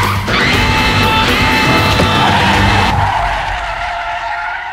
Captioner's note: everyone yelling